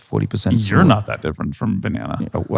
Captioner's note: laughs